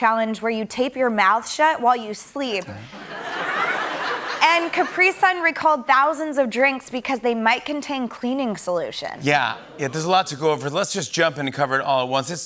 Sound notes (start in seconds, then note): 2.9 laughter